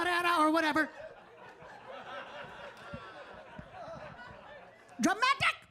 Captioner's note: audience laughing